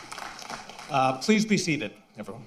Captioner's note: applause